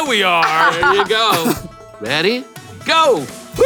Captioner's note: laughs